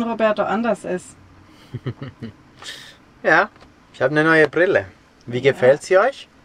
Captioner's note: laughs